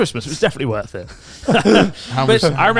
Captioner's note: all chuckling